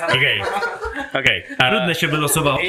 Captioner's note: laughter